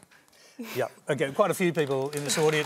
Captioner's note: applause